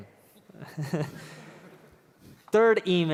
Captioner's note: laughter